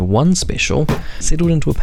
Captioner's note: hammer thunks